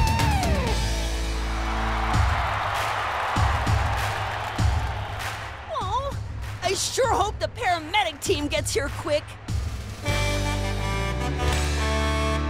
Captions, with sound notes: [crowd cheering] Aww, I sure hope the paramedic team gets here quick. [horn honking]